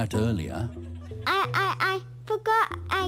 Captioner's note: stammering